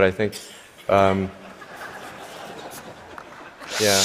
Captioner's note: laughter